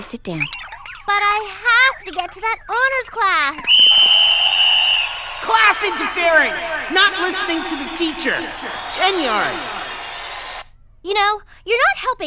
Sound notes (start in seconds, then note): 2.7 whistle blows shrilly